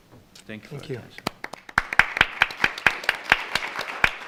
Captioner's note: clapping